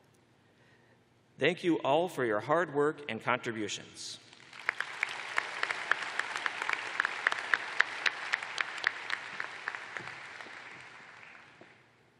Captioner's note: applause